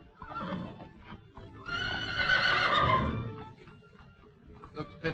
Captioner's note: horse whinnying